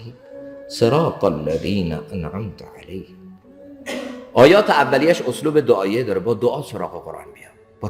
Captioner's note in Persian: گلویش را صاف می‌کند